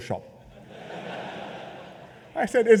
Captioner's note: laughter